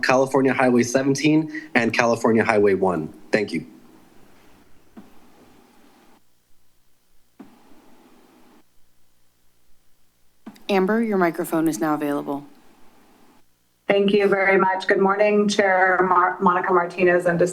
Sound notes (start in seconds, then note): 4.1 silence